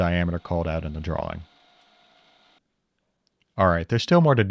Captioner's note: drill whirring